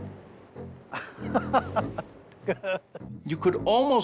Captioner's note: laughing